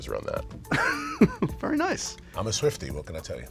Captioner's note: laughs